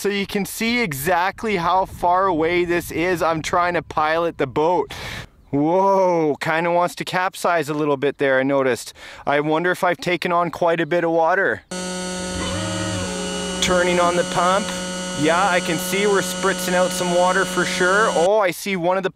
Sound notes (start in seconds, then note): 11.7 engine whirring